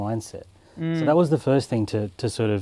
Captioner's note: hums in agreement